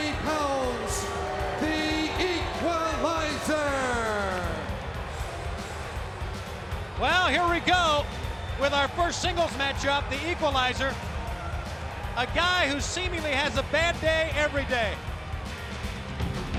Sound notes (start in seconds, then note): 4.7 crowd cheering